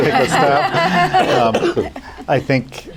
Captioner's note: laughter